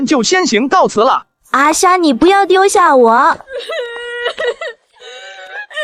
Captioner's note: whimpering